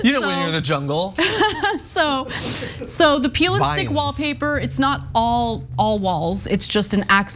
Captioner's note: laugh